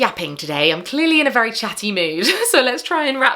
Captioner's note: chuckles